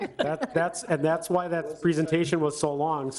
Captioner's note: board members laugh